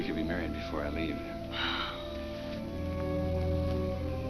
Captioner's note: Ruth sighs